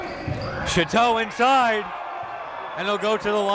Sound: whistle

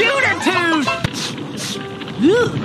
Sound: sniffing

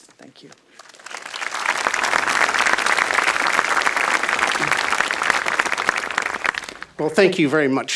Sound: applause

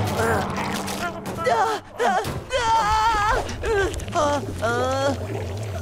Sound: shrieking

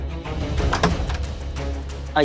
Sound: door opening

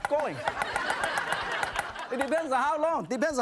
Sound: laughing

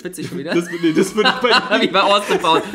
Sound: laughs

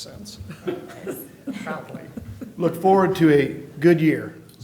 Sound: laughter

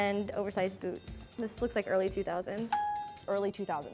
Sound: ding

